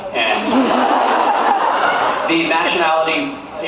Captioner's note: laughs